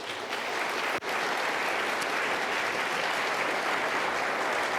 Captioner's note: audience applauding